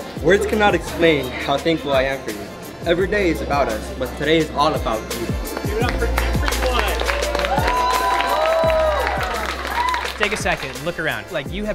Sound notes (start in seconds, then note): 5.8 students cheering and clapping